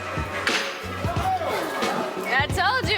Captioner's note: spanker clapping